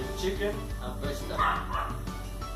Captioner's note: guau guau